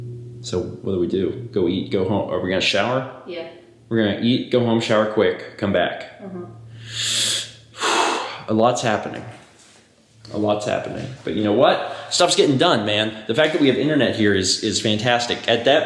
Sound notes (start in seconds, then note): 6.6 vigorous inhale, exhale